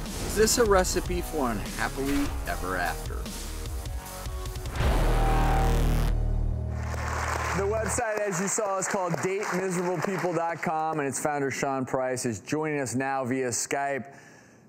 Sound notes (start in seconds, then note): 6.7 audience claps